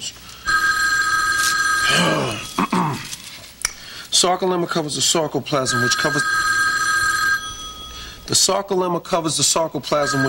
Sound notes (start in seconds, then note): 0.4 telephone rings; 1.9 clears throat; 6.8 ring